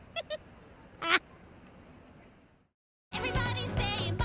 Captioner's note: laughs